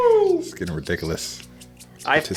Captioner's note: cheering